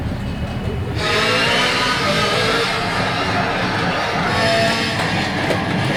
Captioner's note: car engine roaring